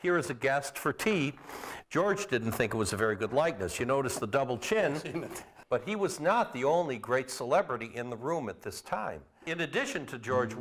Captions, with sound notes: HERE AS A GUEST FOR TEA. GEORGE DIDN'T THINK IT WAS A VERY GOOD LIKENESS. YOU NOTICE THE DOUBLE CHIN. >> [chuckling] YEAH. >> BUT HE WAS NOT THE ONLY GREAT CELEBRITY IN THE ROOM AT THIS TIME. IN ADDITION TO GEORGE